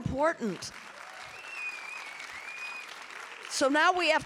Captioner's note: audience applauding and cheering